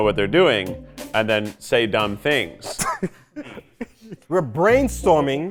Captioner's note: laughs